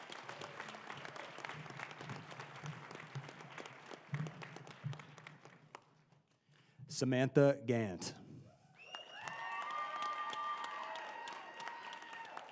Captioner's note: applause